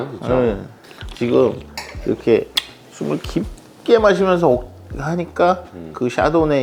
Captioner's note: inhaling